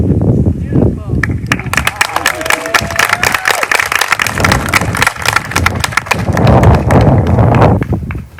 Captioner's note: applause